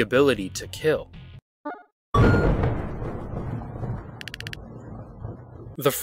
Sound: thunder

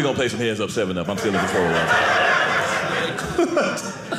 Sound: audience laughing

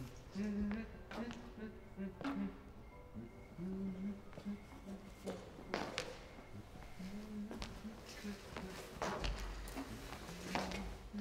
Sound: humming

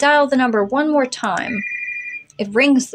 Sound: cell Phone Ring

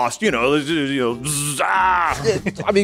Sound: grunting

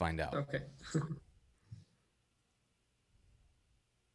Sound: laughs

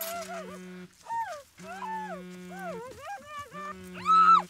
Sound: woman grunting; phone vibrating

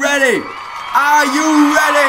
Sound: crowd starting to hype up

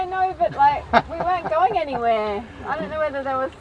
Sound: laughing

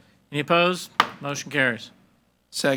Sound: gavel bangs

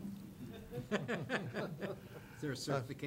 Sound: chuckling

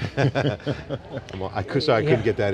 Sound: laughing

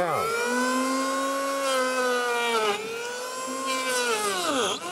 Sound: tool buzzing

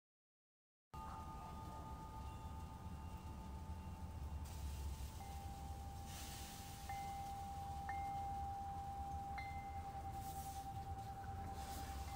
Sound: distant sounds of wind chimes

